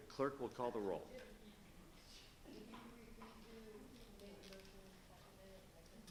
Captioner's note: woman speaking faintly